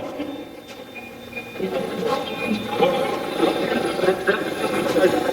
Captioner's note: Steve's Box chatters